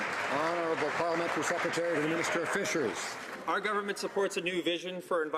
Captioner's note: some Applause